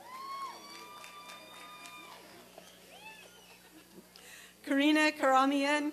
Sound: applause and cheering

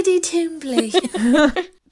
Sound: laughing

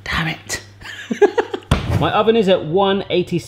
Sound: laughs

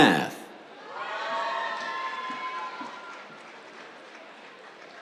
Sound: cheers, applause

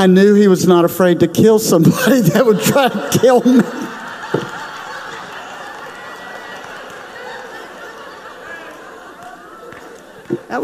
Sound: crowd laughs

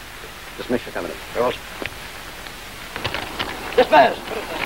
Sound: sergeant speaks faintly

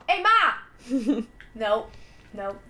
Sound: laughter

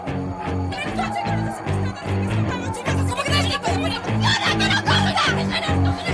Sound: arguing and yelling

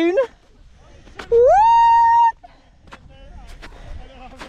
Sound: cheering

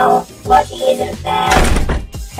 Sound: door opens

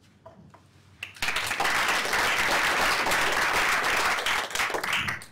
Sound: applause

